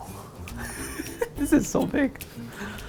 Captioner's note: laughing